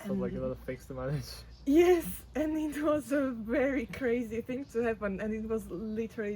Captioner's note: laughs